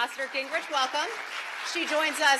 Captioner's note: applause